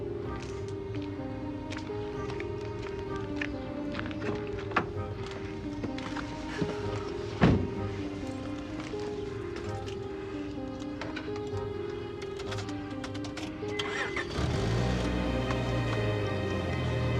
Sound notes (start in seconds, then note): 0.2 gentle upbeat music; 4.6 door closing; 6.6 birds chirping; 8.1 gentle upbeat music; 13.8 car engine revving; 17.0 gentle upbeat music